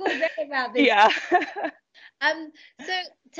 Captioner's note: laughs